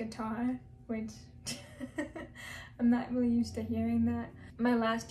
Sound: laughs

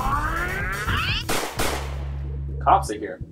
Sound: gunfire in background

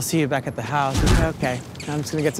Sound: bats squeaking

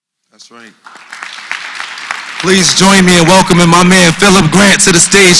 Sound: applause

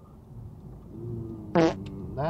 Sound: fart

